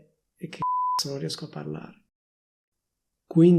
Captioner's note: beep